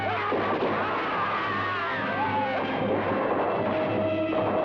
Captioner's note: men shout; gunshots blast